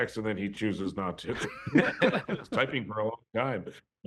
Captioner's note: laughter